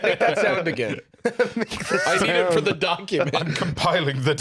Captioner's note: laughing